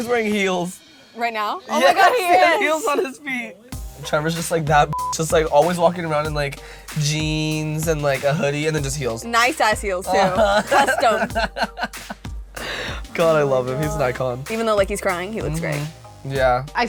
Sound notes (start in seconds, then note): 4.9 beep; 10.0 laughs